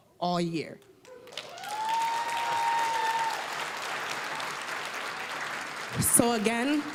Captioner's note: applause, cheering